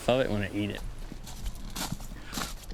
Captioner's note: crunch of rocks